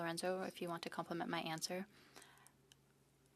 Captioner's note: speaking French